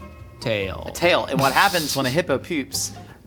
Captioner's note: laughing